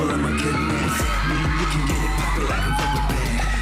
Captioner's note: audience cheering